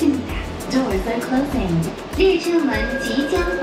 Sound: voice Over PA

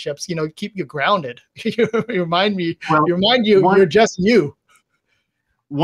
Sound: laughs

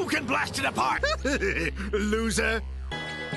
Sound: laughs

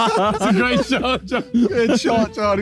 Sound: all laughing; laughing

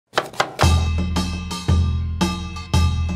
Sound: chopping

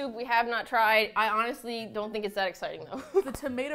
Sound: laughs

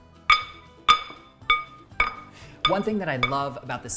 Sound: spoons clanking

